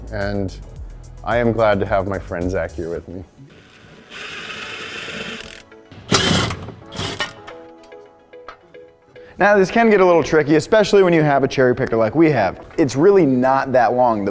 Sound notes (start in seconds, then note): 3.9 upbeat music; 3.9 wrench rasping